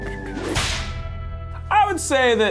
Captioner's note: whip cracks